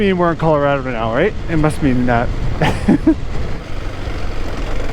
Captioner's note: laughs